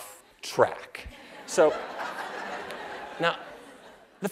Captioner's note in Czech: Smích